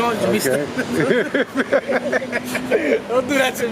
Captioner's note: laughing